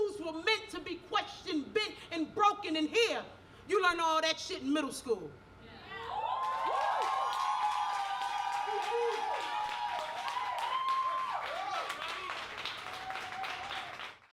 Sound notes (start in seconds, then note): 6.0 audience cheers